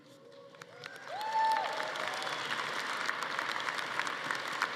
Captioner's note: audience cheering